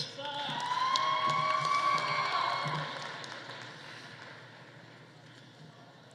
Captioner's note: audience applauding; audience cheering